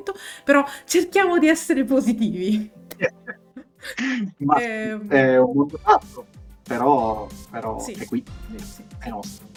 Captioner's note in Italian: risate